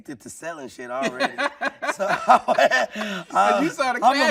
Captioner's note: laughing